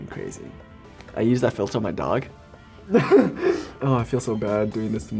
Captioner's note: laughs